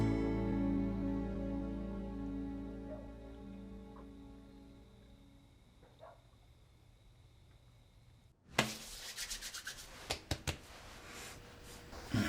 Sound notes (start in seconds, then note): 0.0 harmonica music; 2.8 dog barking outside; 8.5 rubbing, patting sounds